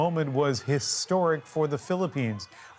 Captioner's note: crowd noise